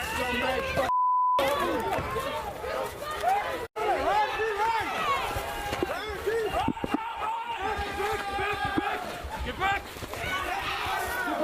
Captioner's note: shouting